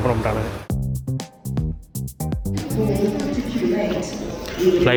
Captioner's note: announcement